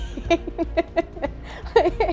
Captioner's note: laughs